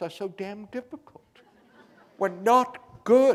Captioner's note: laughter